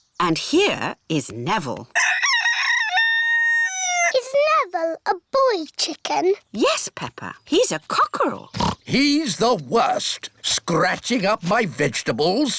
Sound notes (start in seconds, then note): 1.9 rooster crows; 8.5 oinks